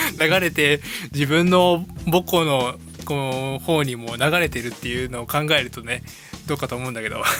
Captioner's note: radio